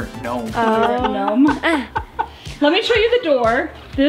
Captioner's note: laughing